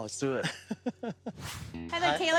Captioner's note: laughing